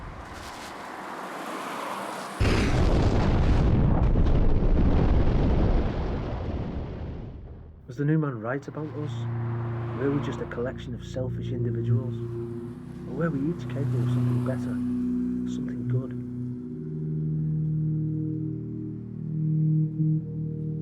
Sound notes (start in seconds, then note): 0.0 car rustling; 2.4 explosion rumbling; 16.8 gentle distorted music